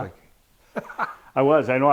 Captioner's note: laughs